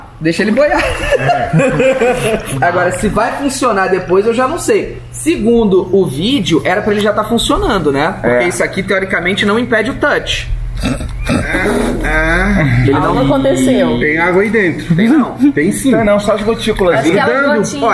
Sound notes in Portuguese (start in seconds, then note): 0.7 risadas; 10.8 risadas